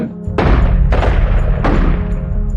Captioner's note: gununshotots